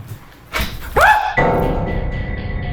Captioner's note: screaming; item clicking; dark tense music